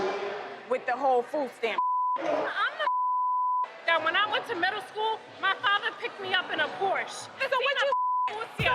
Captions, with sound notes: With the whole food stamp (beep). - I'm not (beep) that when I went to middle school, my father picked me up in a Porsche.